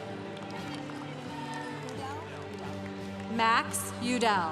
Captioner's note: congregation applauding